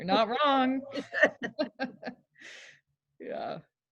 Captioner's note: laughter